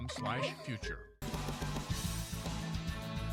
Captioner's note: children laughing; upbeat music